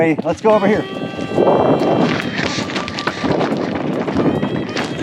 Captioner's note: wind blowing